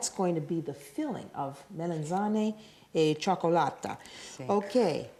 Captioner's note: speaking Italian